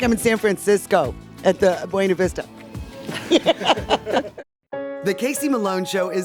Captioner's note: laughs